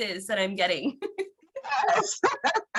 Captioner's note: laughing